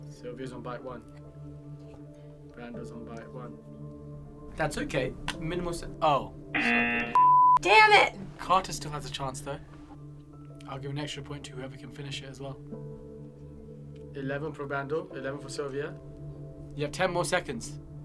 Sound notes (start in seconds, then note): 5.2 lid snaps; 6.5 klaxon blares; 6.6 beep